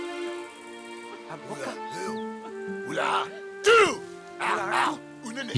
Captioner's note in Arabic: الصوت المنطوق الأجنبي